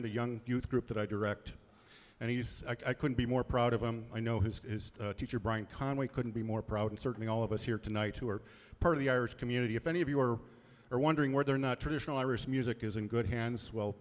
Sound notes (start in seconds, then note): none